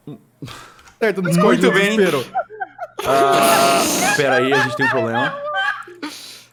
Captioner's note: players laughing